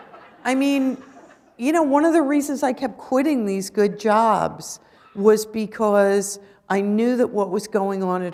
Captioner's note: laughter